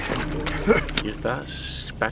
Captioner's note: chuckles